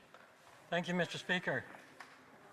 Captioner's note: speaking French